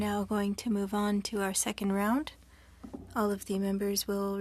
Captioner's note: speaking French